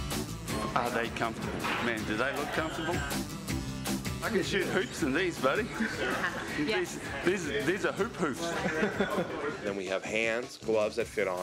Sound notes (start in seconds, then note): 8.3 laughing